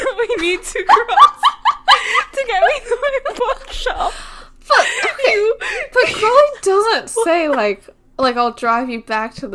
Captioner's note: laughing